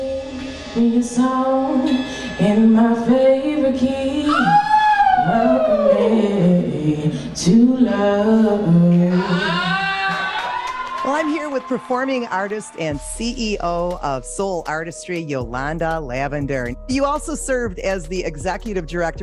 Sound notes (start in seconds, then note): 9.1 audience cheers